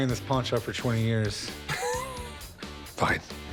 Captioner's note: laughter